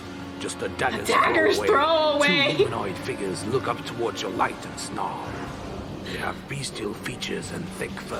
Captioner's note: laughs